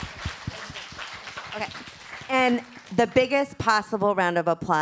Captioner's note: applause